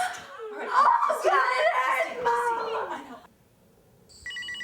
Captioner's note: everybody screaming; Justine screaming; phone ringing